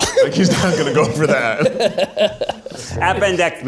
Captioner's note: group laughs